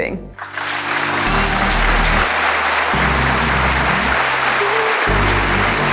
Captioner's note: audience loudly clapping; house beat techno music